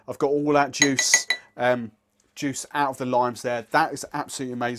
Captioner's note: glass tinkling